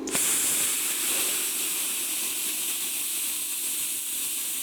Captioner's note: sparks hissing